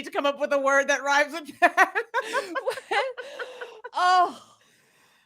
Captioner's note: laughs